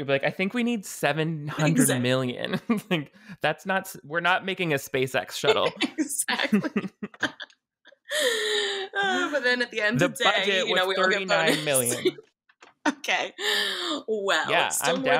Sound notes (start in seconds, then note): 1.4 laughs; 5.4 laughing; 9.9 laughs